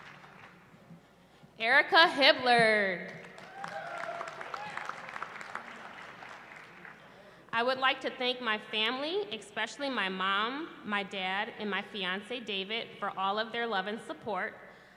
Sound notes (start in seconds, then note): 3.3 cheering